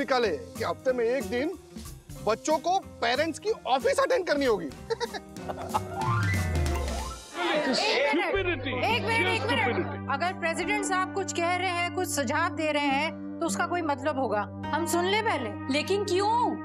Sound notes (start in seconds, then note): 4.9 laughing